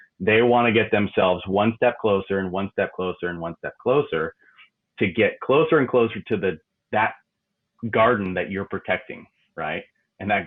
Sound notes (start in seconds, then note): none